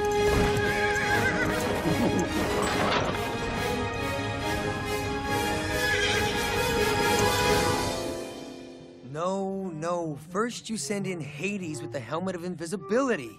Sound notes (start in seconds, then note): 1.2 laughing